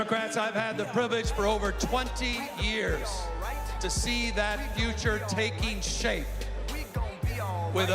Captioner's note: cheers and applause